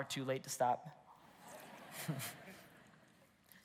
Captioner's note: congregation laughs